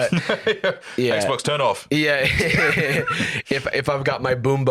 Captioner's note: laughs